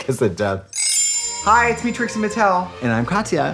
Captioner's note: chimes tinkle